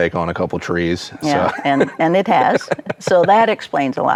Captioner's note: laughs